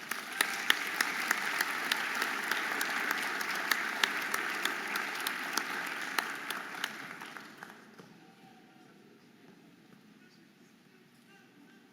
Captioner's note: audience applauding and cheering